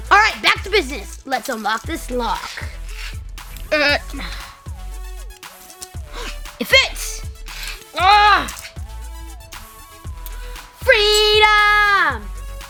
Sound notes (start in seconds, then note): 6.0 gasps